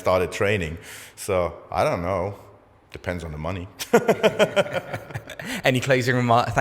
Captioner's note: laughs